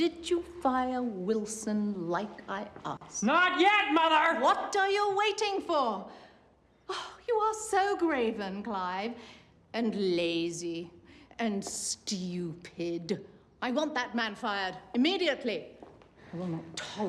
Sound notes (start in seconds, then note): 6.7 sighs